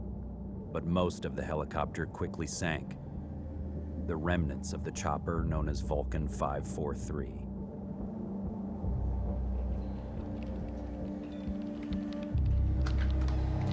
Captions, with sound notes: But most of the helicopter quickly sank, the remnants of the chopper known as Vulcan 5-4-3. (computer keys clicking)